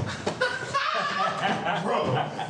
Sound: Tyrone laughing

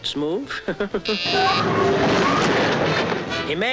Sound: chuckles; train wheels screeching

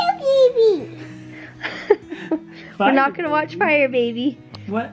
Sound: chuckles

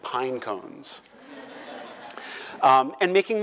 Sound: laugh

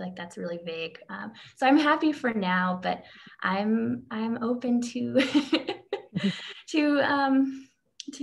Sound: laughs

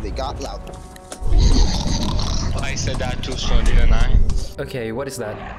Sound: grumbles

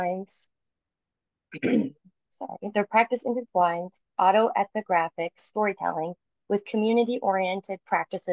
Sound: clears throat

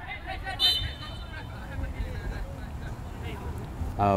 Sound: whistle blows

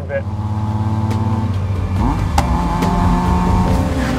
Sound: car roars

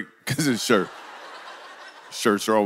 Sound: congregation laughs

